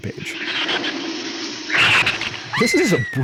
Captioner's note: shrew screeches